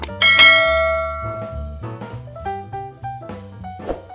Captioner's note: buttons clicking; bell dinging